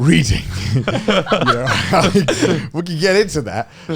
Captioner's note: all laughing